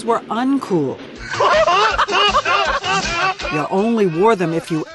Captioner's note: group laughing